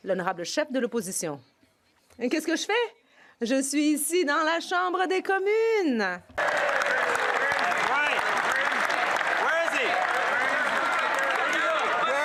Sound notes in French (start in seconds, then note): 7.0 voix de l'interprète